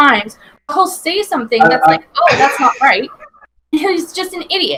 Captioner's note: laughs